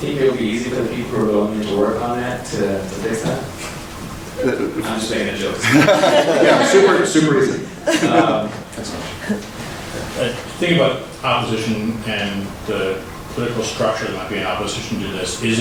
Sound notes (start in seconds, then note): 5.9 laughing